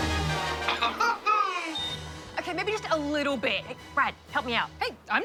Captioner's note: laughs